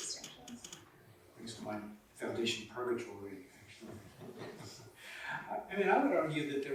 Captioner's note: chuckling